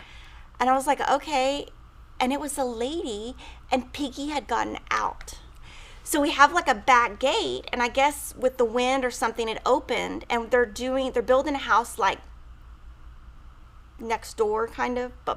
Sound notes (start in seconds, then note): none